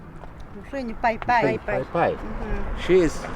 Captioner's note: speaking in foreign language